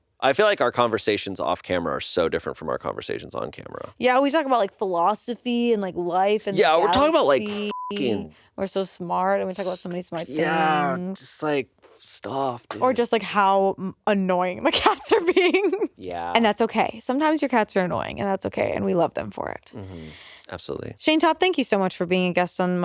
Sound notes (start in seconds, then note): 6.8 beep; 15.6 laughs